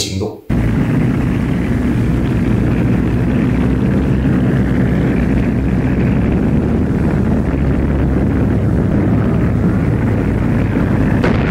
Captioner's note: sound of gunfire